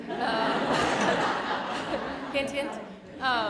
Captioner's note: audience laughter